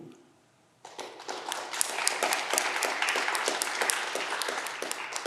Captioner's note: audience clapping